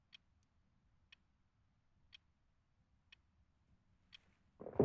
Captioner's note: clock ticking continues